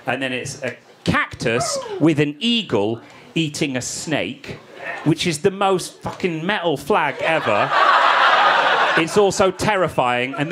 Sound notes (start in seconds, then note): 7.0 audience laughing